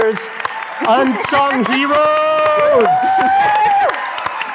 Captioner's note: audience cheering